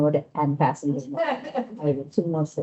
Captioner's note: laughing